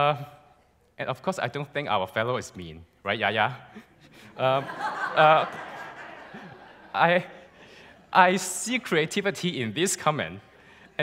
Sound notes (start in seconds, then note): 3.8 laughs